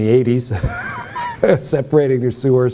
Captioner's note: laughs